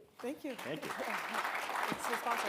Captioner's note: audience applauding